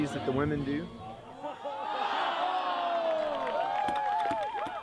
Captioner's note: all exclaiming, cheering